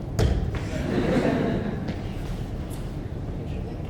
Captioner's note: audience chuckling